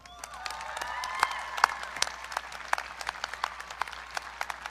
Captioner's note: audience cheering